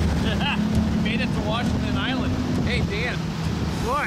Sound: laughing

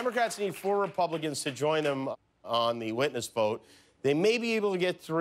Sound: applause

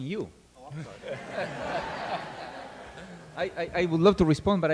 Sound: all laughing

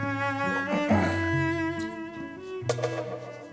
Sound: he keeps getting choked up

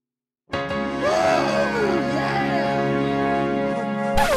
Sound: cheering

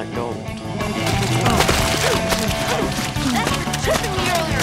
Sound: thudding in mud

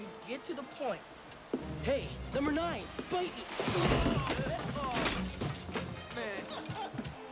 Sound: groans; laughing

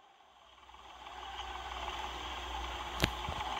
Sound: fan noises in background

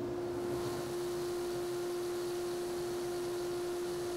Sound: fan whirs

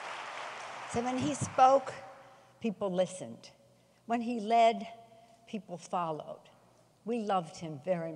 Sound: applause

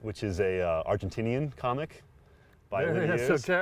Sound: laughs

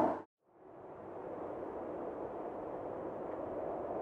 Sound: wind howling

